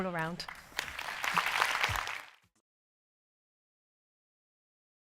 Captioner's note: applause